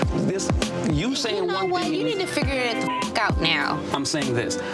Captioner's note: beep